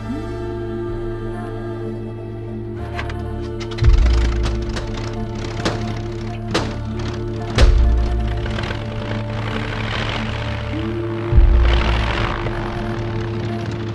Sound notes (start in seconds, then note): 4.1 engine sputtering